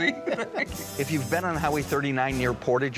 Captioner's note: both laugh